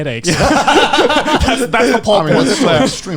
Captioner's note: laughing